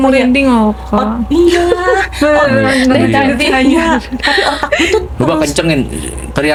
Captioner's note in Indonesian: tertawa